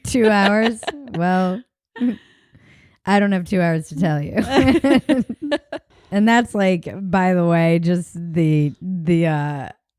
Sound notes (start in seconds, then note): 0.0 laughs; 4.4 both laughing